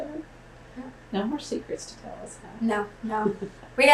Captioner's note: laughs